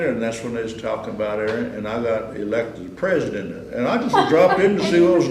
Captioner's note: laughter